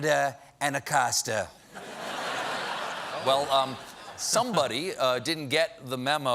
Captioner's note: laughter